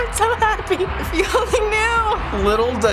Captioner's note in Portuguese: música triunfante; Risos